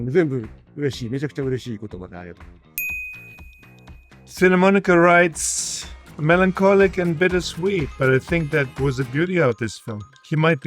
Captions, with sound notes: (graphics chimes) Cinemonika writes,